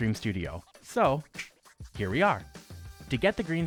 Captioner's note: snap